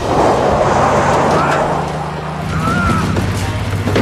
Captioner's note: grunting